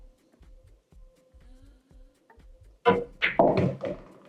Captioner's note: balls hitting